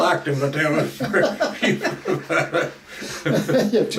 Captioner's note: both laugh